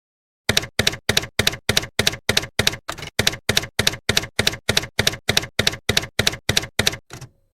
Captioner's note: typewriter keys clacking